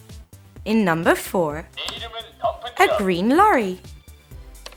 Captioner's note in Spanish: Suena una voz en Coreano